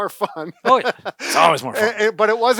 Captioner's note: laughing